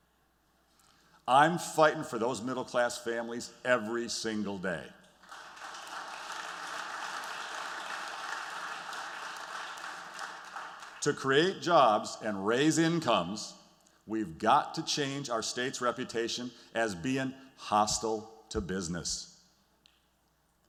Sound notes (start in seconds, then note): 5.2 applause